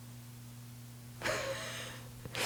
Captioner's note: laughs